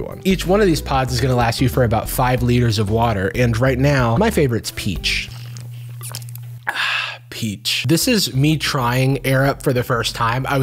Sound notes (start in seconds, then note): 7.3 sips